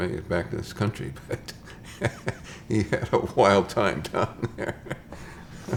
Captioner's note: chuckles